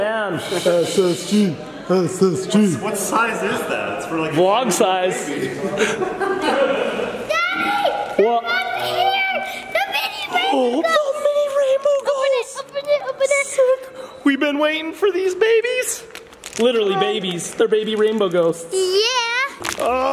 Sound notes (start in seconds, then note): 4.0 laughs; 11.0 gasps